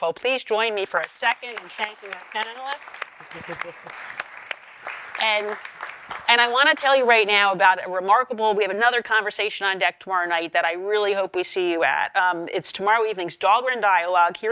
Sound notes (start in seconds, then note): 3.3 audience applauds